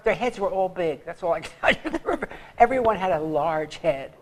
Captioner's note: laughs